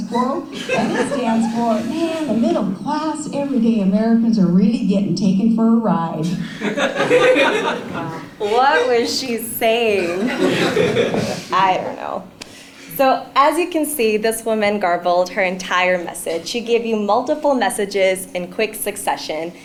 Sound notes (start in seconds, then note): 6.2 laugh